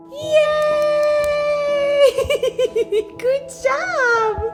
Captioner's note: laughs